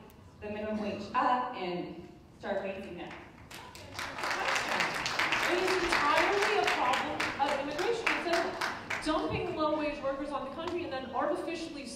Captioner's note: applause